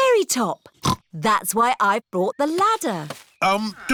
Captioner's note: snorts